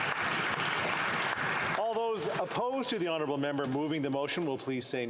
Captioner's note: applause